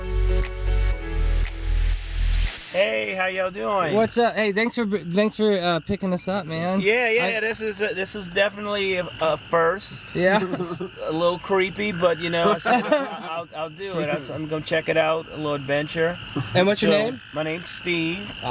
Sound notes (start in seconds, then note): 9.8 laughs; 11.8 group laughs